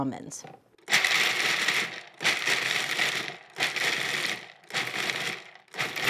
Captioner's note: food processor grinds almonds